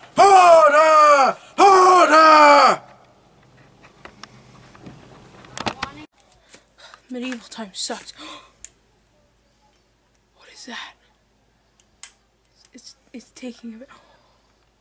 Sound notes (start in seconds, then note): 8.2 gasps Deeply; 13.9 gasp